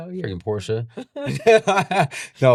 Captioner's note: laughing